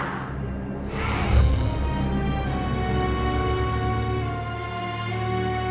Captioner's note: distorted buzz; slow orchestral music